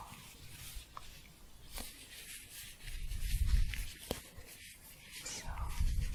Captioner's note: shuffling